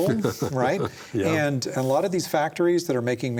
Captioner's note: chuckles